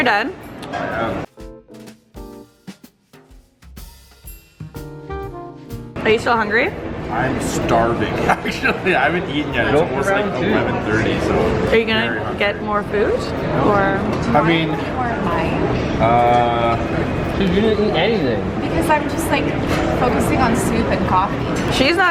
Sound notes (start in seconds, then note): 0.9 jazzy music; 8.7 laughs